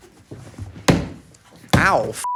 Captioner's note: hand thumps